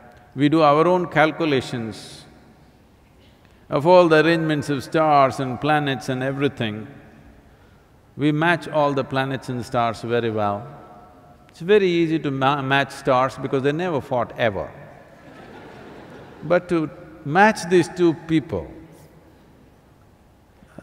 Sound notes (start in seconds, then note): 15.1 laughter